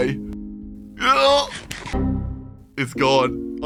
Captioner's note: sounds uneasily